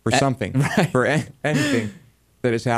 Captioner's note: laughs